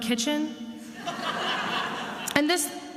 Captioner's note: attendees laughing